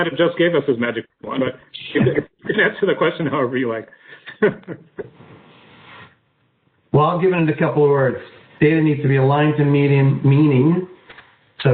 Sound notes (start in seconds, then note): 1.2 laughs